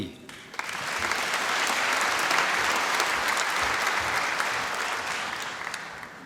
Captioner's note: applause